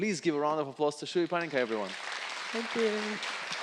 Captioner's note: audience clapping